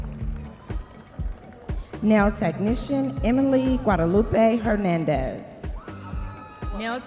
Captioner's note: audience members cheering